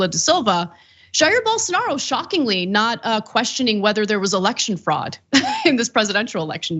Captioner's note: laugh